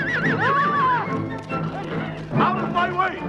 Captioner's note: Hundra shouts